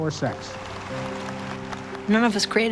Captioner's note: applause